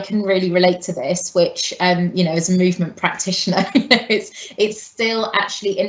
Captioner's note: laughing